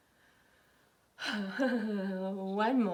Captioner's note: laughs